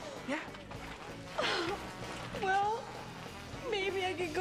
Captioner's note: sobbing